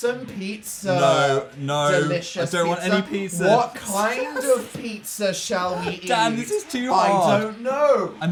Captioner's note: laughing